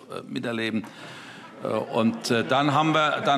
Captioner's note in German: Heiterkeit